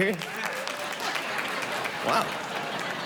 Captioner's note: sparse applause